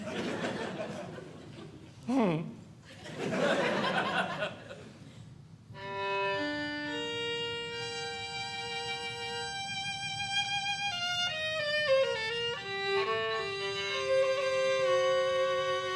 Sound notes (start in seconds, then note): 0.0 audience Laughing; 5.7 classical Music